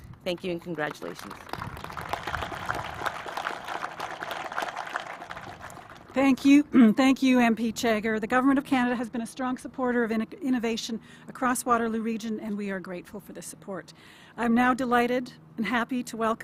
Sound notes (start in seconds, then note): 6.3 applause